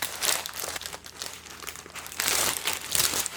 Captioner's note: I like the sound of paper foil